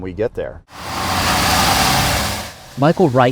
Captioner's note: engine roaring